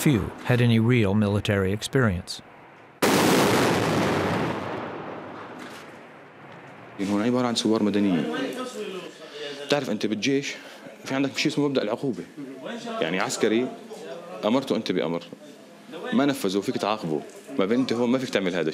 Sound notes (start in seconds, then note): 0.0 explosions; 3.0 explosions